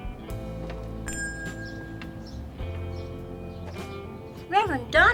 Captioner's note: shop bell rings